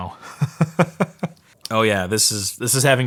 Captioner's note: laughing